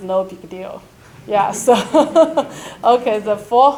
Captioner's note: laughs